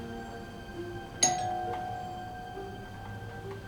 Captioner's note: doorbell rings again